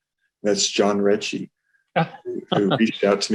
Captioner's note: laughing